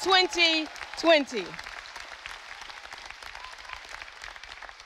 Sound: audience applauding

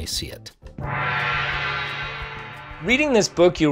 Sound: gong rings

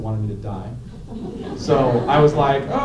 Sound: laughter

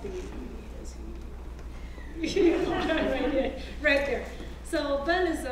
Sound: laugh

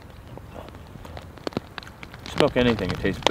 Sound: rain falling

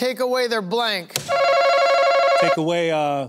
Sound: buzzer ringing

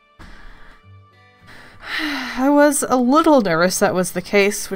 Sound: sigh

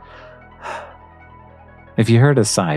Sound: sigh

